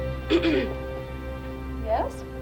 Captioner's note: Danny clears throat